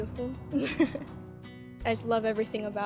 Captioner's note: laughing